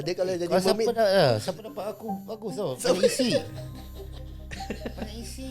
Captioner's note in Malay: ketawa